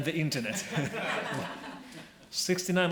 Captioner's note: laughing